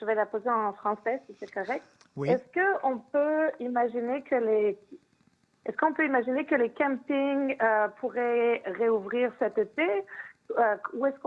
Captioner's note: speaking French